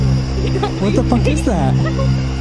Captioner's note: laughs